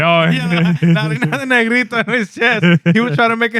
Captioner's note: speaking Spanish